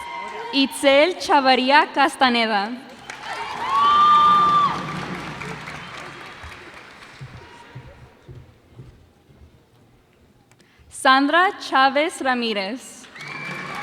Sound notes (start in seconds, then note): 2.9 cheers and applause